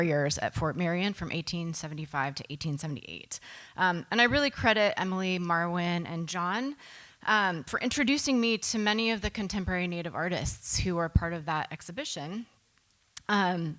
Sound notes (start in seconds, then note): none